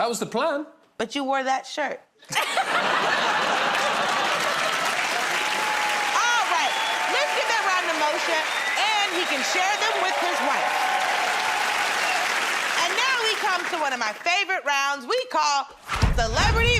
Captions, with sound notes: -That was the plan. -But you wore that shirt. [ Laughter ] [ Cheers and applause ] All right, let's give that round to Moshe, and he can share them with his wife. [ Cheers and applause ] And now we come to one of my favorite rounds, we call...